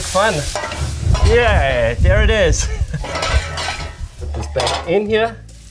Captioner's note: laughing